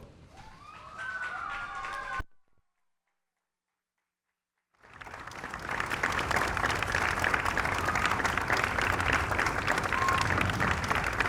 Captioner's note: applause